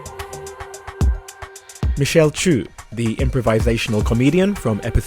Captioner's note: voiceover